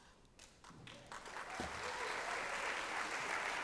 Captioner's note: applause